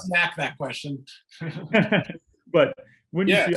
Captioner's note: laughter